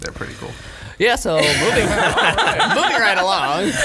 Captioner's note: laughing